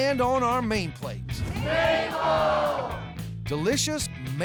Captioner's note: everybody shouting